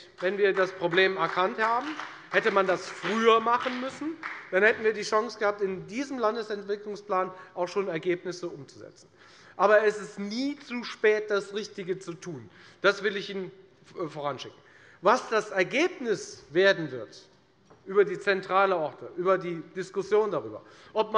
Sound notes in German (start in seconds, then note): 3.9 Beifall bei der FDP und bei Abgeordneten der SPD